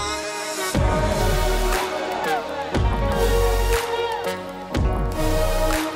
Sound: cheering

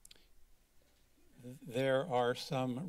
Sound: click

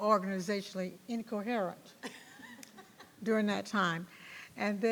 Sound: members laughs

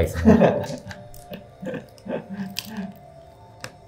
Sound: laughing

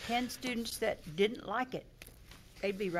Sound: snaps

